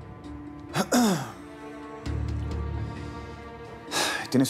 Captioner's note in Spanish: carraspea